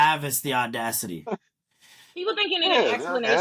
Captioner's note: laughing